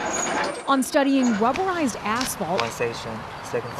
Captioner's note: vehicles whirring; machinery squeaking